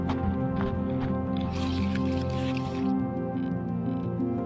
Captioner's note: scratching Tussock Noise